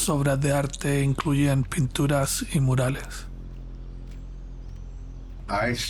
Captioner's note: narrator speaking Spanish